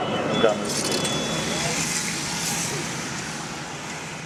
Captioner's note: traffic sound